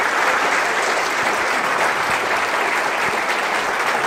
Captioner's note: applause